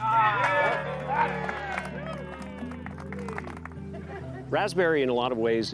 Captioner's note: cheers and applause